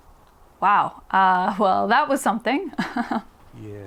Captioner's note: giggles